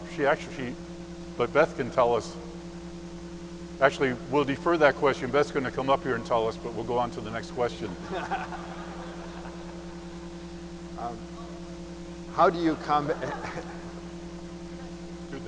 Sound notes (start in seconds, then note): 7.9 audience laughing; 13.0 laughing